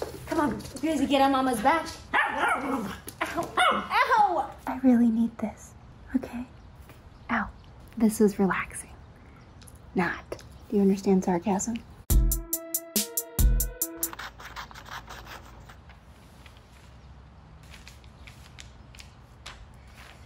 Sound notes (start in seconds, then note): 2.1 barks; 12.1 upbeat music